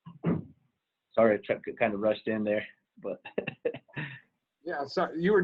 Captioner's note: laughing